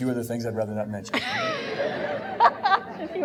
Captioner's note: laughing